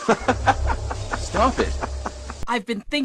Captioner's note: louder questionable laugh; questionable laugh